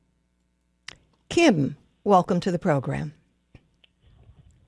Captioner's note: smacks lips